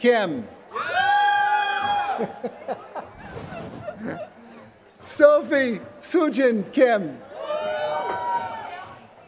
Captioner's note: laughter